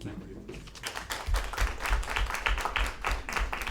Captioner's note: applause